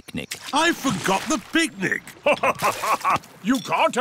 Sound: laughs

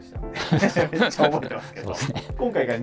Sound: laughing

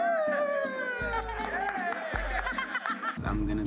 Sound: laughter

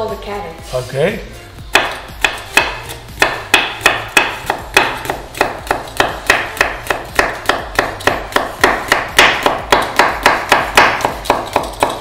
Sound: chopping Noise

